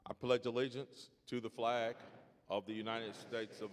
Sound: crowd

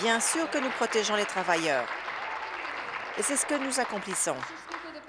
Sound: applause

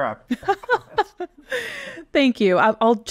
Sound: laughing

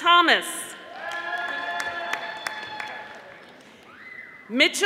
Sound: audience applauding

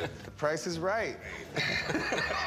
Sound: laughs

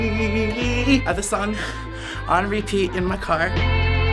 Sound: singing along; breathlessly

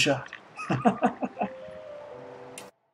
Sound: laughs

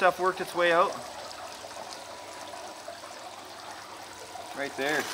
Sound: water splashing

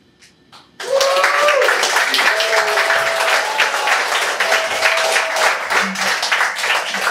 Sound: applause

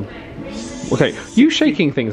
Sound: mimics fizzing noise

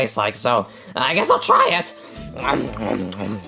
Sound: munches

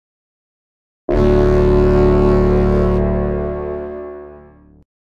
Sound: sound of inception

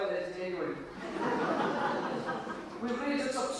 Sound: audience laughs

